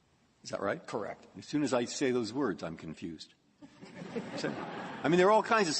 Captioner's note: laughter